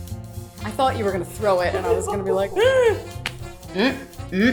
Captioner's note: gasp